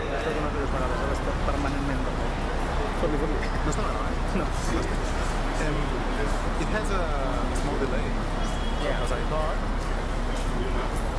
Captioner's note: speaking in Spanish